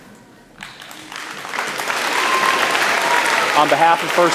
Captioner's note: applause